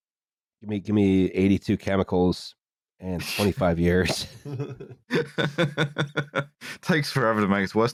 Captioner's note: laughter